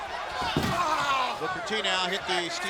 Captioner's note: Booker shouting